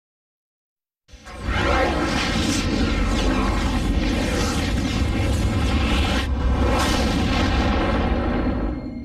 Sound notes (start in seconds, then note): 1.2 dramatic twister and helicopter sounds